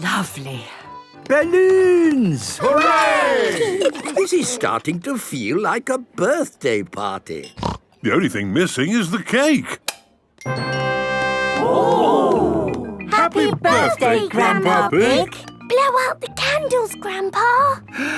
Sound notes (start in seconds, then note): 10.3 click